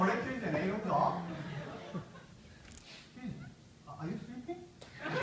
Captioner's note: laugh